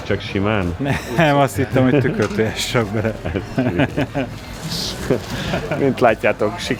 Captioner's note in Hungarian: nevetés